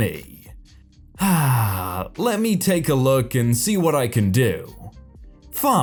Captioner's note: inward sigh